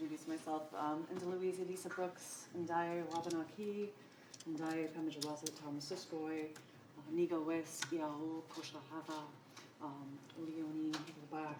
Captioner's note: non-english speech